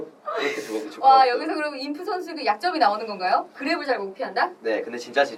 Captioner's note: laughs